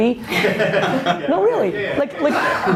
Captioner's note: laughs